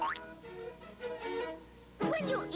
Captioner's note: boing